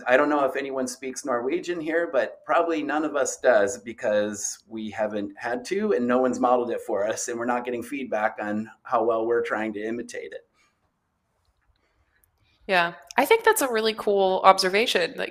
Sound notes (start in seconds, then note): none